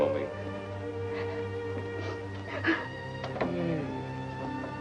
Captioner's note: crying